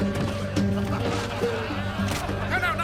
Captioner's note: laughter